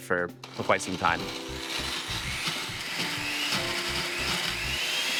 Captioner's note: blender whirring